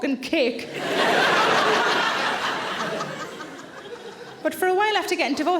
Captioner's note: audience laughing